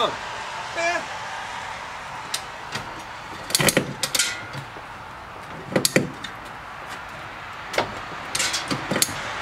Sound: cars passing and ratchet noise

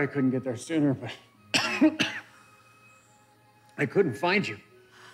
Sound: coughs

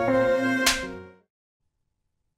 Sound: slaps

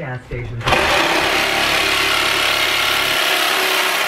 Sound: saw whirring

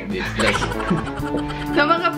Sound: hisses

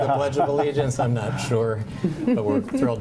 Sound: laughter

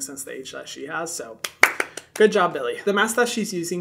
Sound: clapping

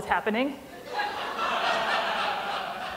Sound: laughter

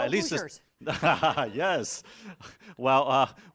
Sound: laughing

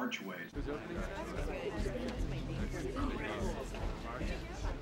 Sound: people chattering

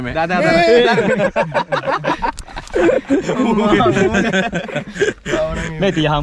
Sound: laughing

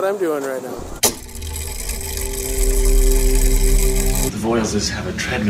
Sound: mechanism whirring

